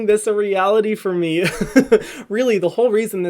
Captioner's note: laughing